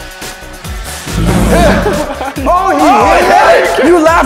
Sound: overlapping chatter

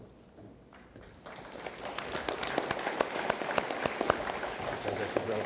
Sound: audience applauds

